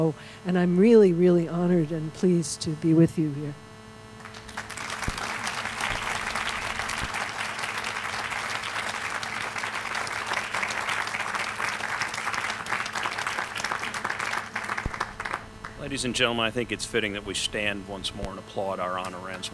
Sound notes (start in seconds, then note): 4.6 applause